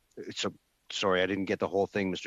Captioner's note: speaking French